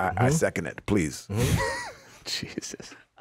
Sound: laughs

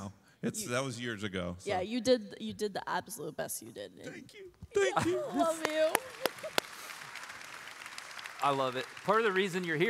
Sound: applause

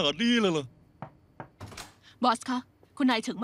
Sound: door knock

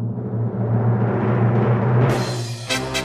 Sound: rumble rumble rumble rumble; rumble rumble rumble rumble rumble

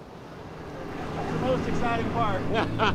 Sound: engine running

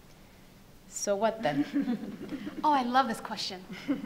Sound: panelists laugh

